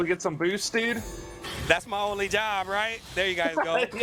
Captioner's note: laughter